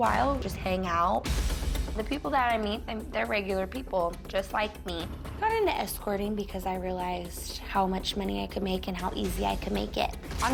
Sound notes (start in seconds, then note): none